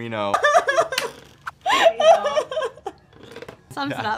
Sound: Gia laughing

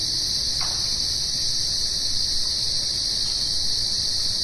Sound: wood knock

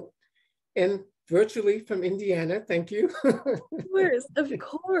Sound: giggles

